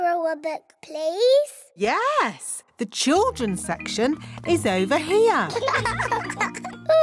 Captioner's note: laughter